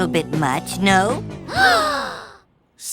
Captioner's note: gasp